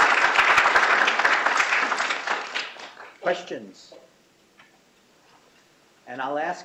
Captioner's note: applause